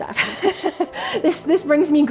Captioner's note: laughing